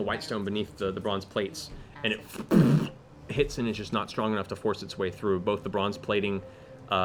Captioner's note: impact noise